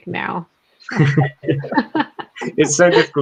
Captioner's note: group laughs